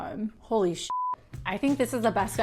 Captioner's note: beep